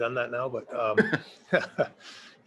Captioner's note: laughs